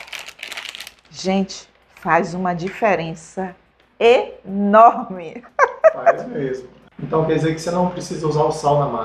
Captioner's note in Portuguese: risadas